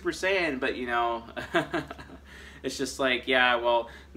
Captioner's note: laughs